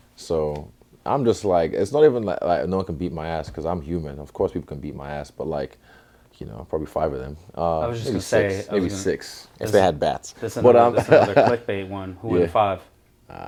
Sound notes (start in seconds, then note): 10.5 laugh